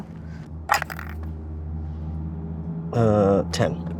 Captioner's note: die rattles